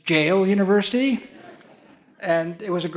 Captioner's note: audience laughs